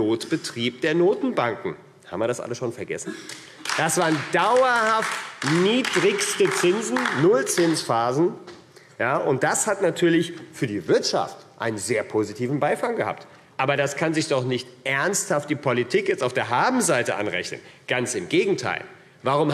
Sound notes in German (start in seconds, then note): 3.3 Beifall AfD